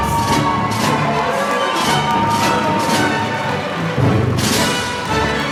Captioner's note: applause